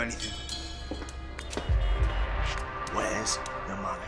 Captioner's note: footsteps pattering